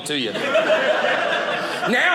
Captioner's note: audience laughing